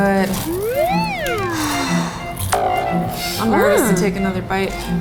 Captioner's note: electric slider whirring